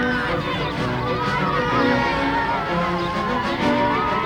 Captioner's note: children on bus cheer